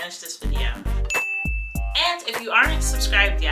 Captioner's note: bell chiming